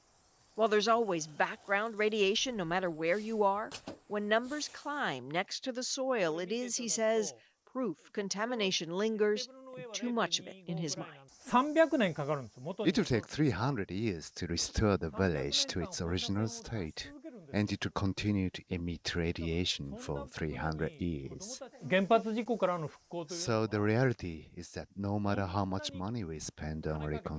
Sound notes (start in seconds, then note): 16.2 speaking Foreign Language